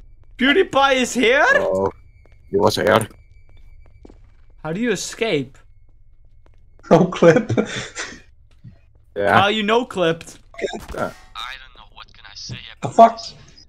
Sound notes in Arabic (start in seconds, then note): 7.2 يضحك